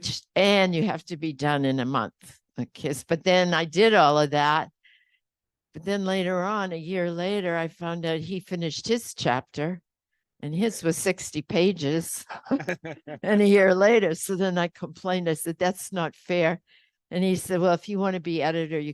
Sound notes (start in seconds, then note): 12.4 panel laughs